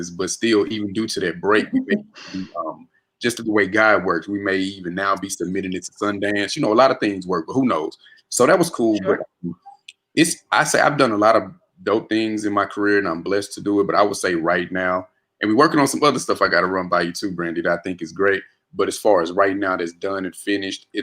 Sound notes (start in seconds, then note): 1.5 murmurs